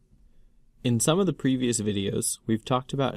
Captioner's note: voiceover